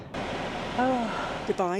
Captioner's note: AC blasting